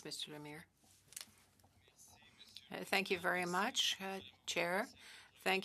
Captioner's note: speaking French